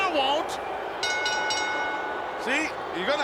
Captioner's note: bell rings